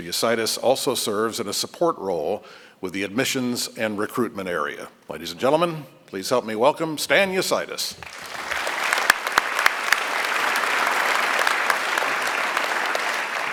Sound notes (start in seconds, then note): 8.0 applause